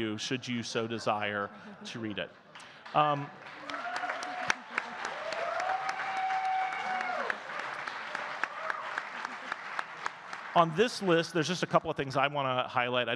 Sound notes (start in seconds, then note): 2.4 audience clapping and cheering